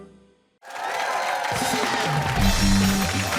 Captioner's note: cheering